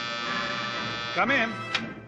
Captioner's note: buzzer buzzing